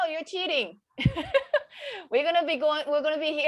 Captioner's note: moderator laughing